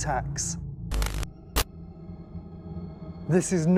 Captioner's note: static